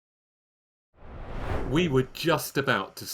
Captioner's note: screen swooshing